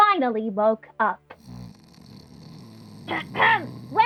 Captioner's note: floor snores